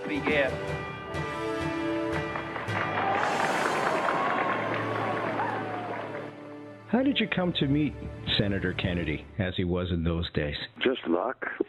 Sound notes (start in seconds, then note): 0.3 dramatic spirited music; 1.6 audience applauds; 2.1 audience cheers